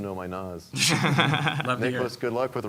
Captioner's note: laughter